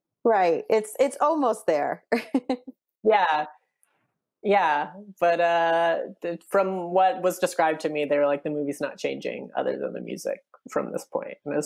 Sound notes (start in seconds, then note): 2.1 laughs